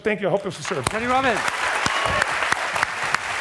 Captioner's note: voiceover; clapping